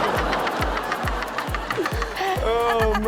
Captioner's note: all laughing